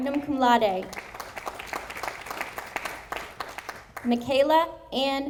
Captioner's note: audience applauding